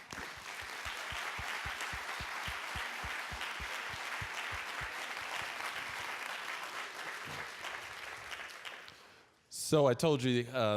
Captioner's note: applause